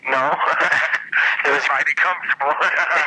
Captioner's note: both laughing